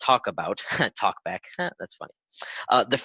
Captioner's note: laughs